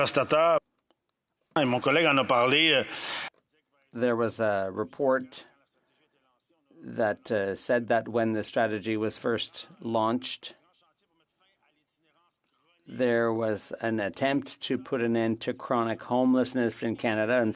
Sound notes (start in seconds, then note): 3.9 speaking French